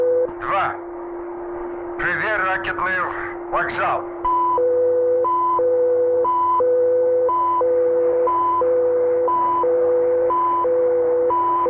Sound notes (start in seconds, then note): 0.2 soldier speaking in Russian; 4.0 machinery beeping and whirring